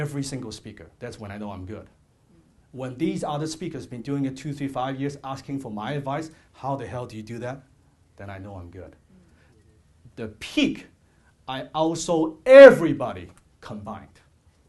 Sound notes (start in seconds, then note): none